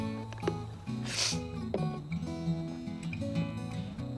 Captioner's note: sniffling